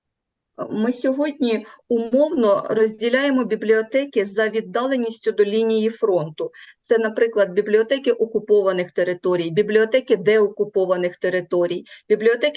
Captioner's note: foreign Language